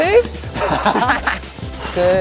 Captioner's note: laughing